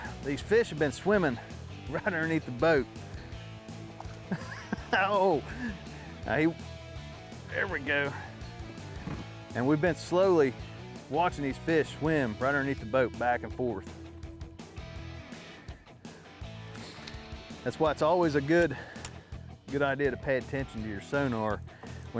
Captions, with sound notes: these fish have been swimming right underneath the boat. (laughing) There we go. And we've been slowly watching these fish swim right underneath the boat back and forth. That's why it's always a good, good idea to pay attention to your sonar